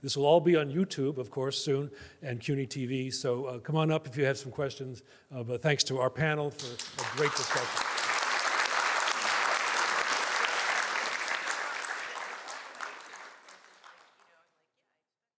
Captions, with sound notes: This will all be on YouTube, of course, soon, and CUNY TV, so come on up if you have some questions. But thanks to our panel for a great discussion. (audience applauding)